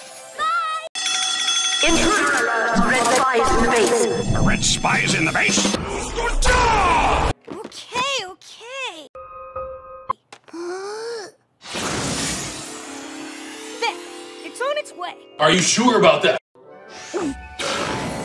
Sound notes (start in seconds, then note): 8.9 Spy is crying; 10.4 inhales; 16.9 gag; 17.6 belch